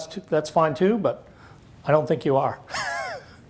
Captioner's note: laughs